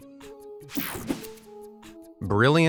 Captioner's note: slide whooshes